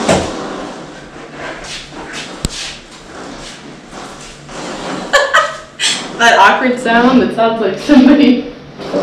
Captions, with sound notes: (laughter) That awkward sound, that sounds like somebody...farting.